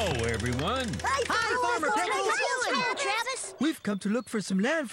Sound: all Shout Greeting

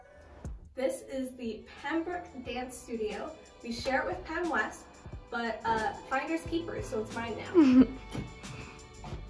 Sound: off-camera laugh

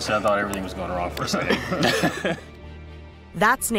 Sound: laughs

